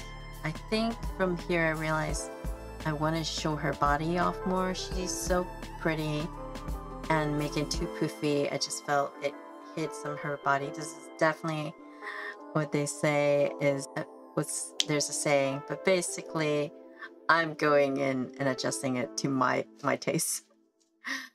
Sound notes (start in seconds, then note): 14.8 snap!